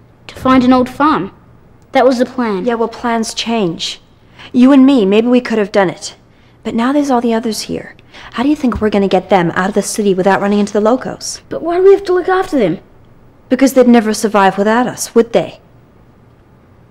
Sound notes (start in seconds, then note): none